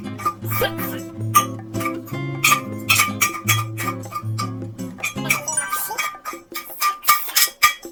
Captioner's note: ssak ssak